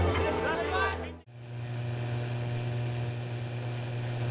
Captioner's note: buzzing